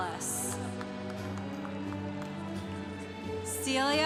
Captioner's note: congregation applauding